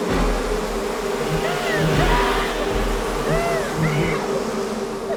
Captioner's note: sanglotant passionné